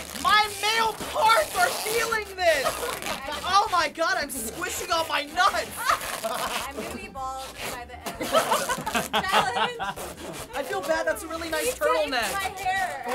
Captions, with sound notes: My middle parts are feeling this! Oh my god, I'm squishing on my nuts! (laughter) - I'm gonna be bald by the end of this fucking challenge. - (chuckles) - I feel bad. That's a really nice turtleneck. - He taped my hair.